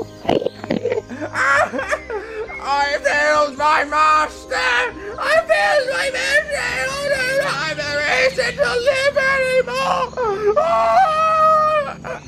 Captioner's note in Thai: ร้องไห้